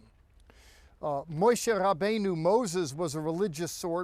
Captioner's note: speaking in Hebrew